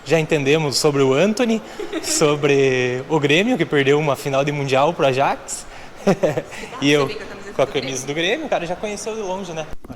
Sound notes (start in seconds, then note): 6.0 laughs